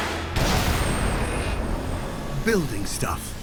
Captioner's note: booming